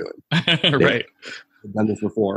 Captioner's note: laughing